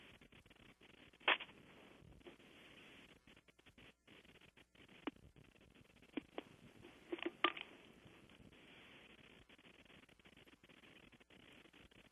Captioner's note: pause